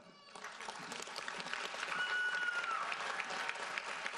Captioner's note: audience applauds